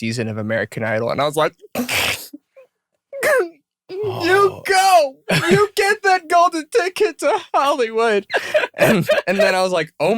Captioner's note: crying